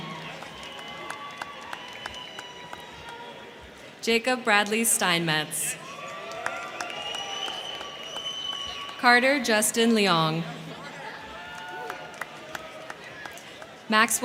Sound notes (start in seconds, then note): 0.0 crowd clapping; 0.0 crowd cheering; 5.0 crowd cheering; 5.8 crowd clapping; 10.5 crowd cheering; 10.7 crowd clapping